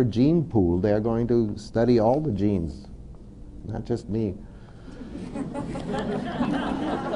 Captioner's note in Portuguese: risos